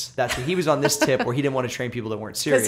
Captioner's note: laughter